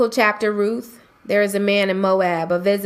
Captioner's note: voiceover